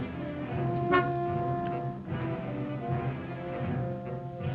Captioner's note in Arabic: صوت بوق السيارة